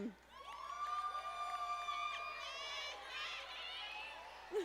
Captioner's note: audience applauding